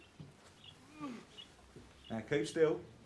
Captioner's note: Gordon groans